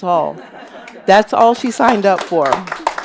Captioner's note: audience laughs and claps